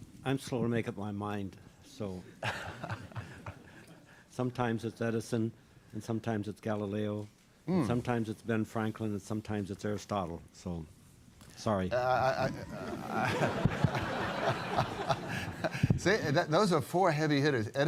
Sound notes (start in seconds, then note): 12.2 laughter